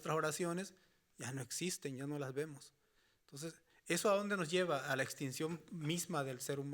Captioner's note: speaking Spanish continues